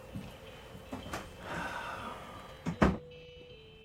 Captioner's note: Jones sighs